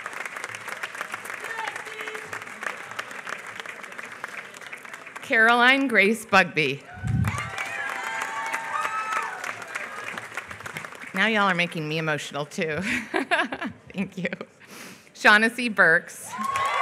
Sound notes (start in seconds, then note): 6.8 applause; 12.8 laughs; 16.3 applause